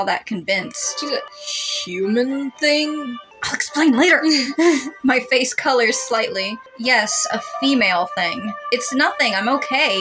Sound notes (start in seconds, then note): 3.5 hissing; 4.0 chuckle